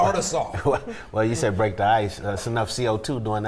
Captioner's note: chuckles